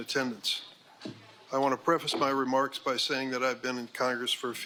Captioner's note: gavel bangs